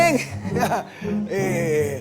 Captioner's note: nervous laugh